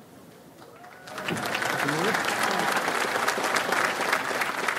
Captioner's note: audience applauds